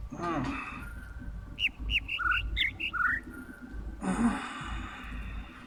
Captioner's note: overlapping birds chirping, ˥ ˥ ˩ ˧ ˩